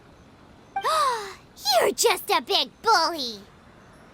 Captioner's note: gasp